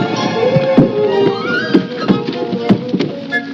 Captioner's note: thudding